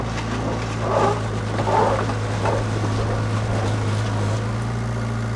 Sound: machinery scrapes ground

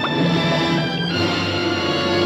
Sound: none

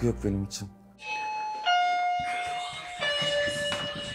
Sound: doorbell

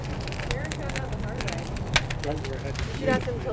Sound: indistinct chatter

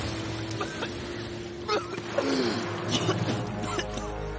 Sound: coughing

